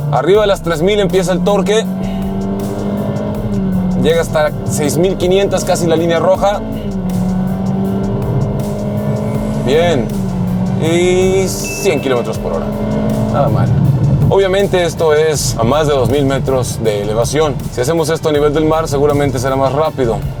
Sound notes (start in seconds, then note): 1.5 engine revving